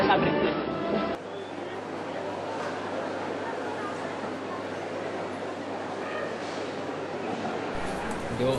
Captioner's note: passersby sound